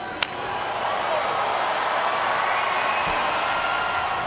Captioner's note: crowd cheers